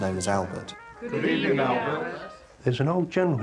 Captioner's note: crowd